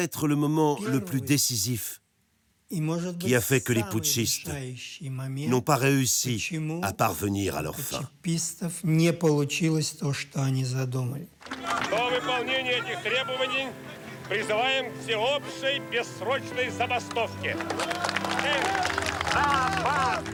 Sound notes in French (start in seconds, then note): 13.1 applaudissements